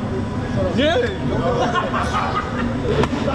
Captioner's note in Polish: śmiech